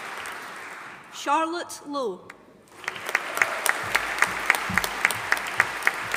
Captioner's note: audience applauding